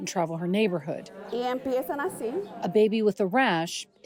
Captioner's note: doctor speaking in foreign language